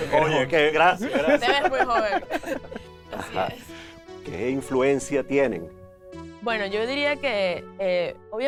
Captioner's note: laughter